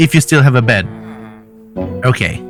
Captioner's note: villagers mumbling